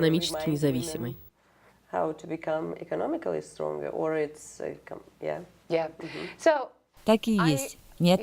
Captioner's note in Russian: Разговаривают на английском